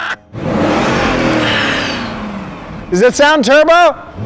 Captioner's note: laughing; car engine roaring